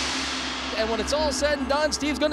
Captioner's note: gong ringing